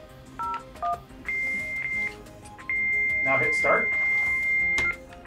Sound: modem beeping

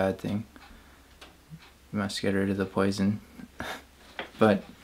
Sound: chuckling

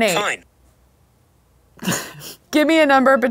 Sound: laughs

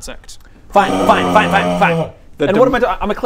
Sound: unhappy noises

